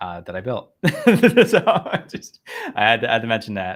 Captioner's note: both laugh